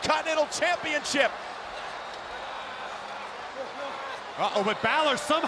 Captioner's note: crowd cheering